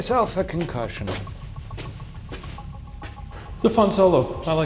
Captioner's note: footsteps crunching